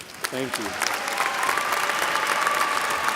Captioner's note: applause